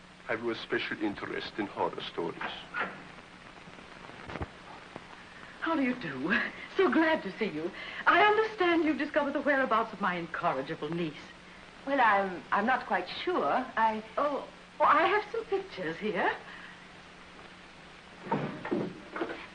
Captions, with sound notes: I have no special interest in horror stories. How do you do? [Happily sighs] So glad to see you! I understand you discovered the whereabouts of my incorrigible niece. Well I'm-I'm not quite sure. I... Oh. Well I have some pictures here.